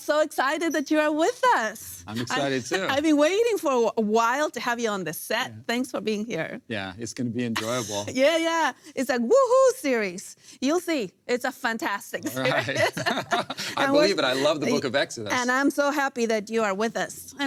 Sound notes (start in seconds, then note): 7.5 laughs; 12.2 both laugh